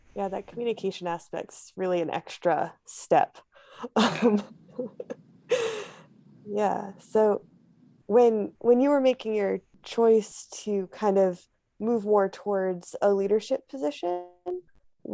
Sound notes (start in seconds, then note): 4.0 chuckles